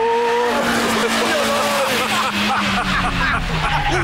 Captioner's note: all laugh